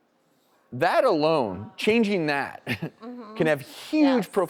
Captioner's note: laughs